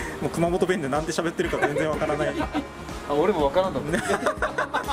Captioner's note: laughs